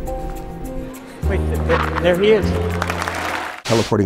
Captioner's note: applause